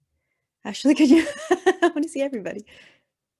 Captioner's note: laughing